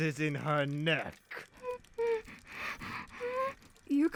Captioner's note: etta whimpers